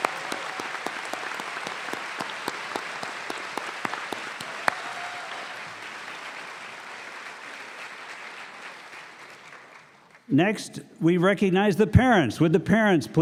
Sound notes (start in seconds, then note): 4.4 applause